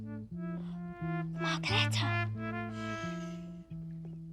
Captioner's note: gasps